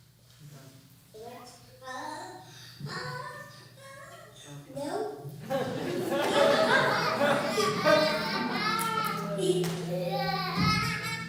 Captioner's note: audience laughter